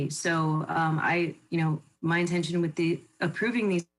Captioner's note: none